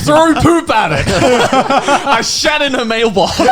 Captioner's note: laughing